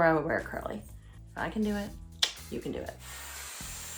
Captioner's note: clicks tongue; brush whirring